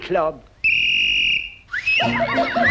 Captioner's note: whistle; birds warbling